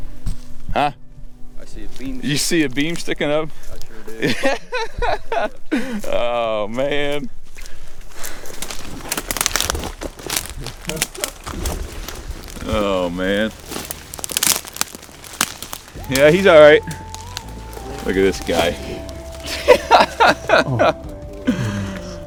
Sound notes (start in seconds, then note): 4.2 excited laugh; 8.0 sound of walking; 19.4 excited laugh